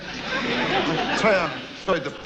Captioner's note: audience laughs